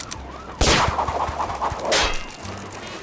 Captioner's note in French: whoosh !